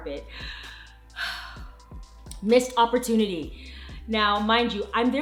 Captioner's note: exhales deeply